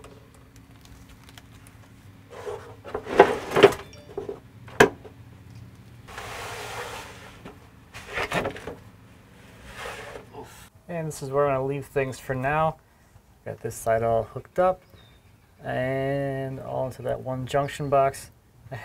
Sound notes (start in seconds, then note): 2.4 tools banging